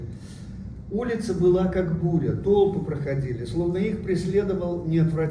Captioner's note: speaking uzbek